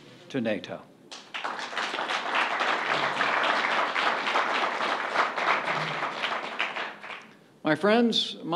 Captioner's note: applause